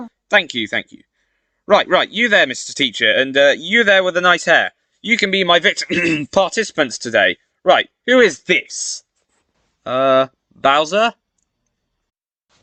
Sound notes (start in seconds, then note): 5.8 ahem